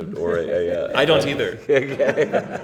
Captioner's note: laughter